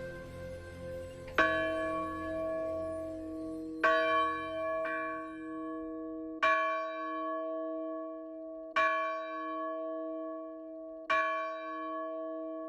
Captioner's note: ringing bell